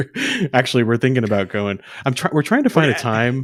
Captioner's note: laughs